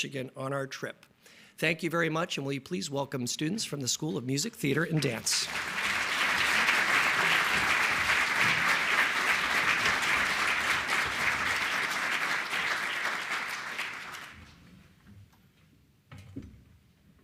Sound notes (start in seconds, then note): 6.6 applause